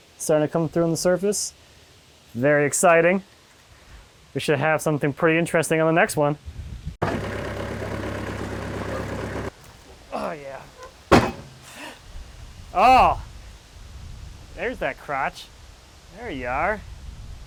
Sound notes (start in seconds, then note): 7.0 engine rumbling; 10.8 slab banging